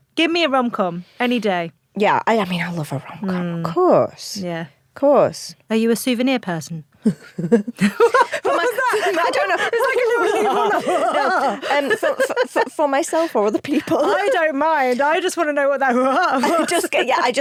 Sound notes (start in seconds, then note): 6.9 Ruth chuckles; 8.4 laughs; 11.3 chuckles; 15.9 chuckles